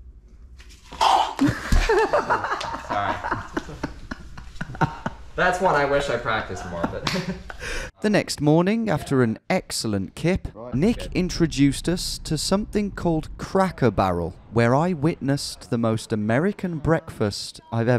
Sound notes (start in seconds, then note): 1.0 gags; 1.3 laughing